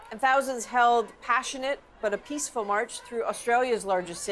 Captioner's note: chanting